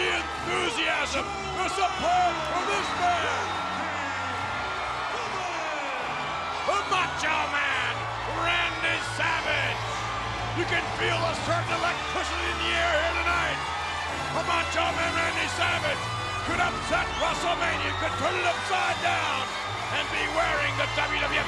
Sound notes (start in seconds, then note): 9.2 audience cheers